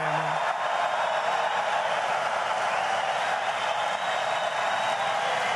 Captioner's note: audience cheers